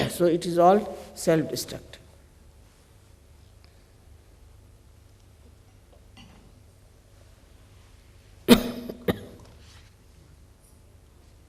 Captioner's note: coughs